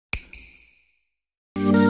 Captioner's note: snap